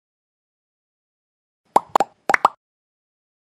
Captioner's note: sound effect: bubbles popping